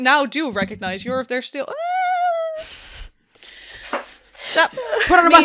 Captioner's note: dice thumps; quiet laughter